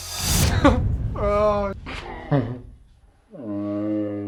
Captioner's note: laughing